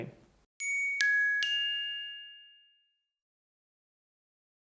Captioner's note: bell ringing